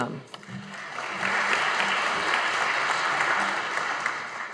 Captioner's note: audience applauding